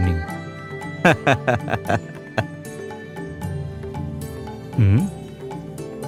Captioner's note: laughter